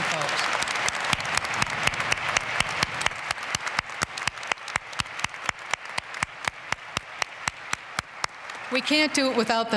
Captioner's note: applause